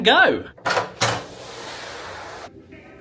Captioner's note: door humming; latch clicks; upbeat music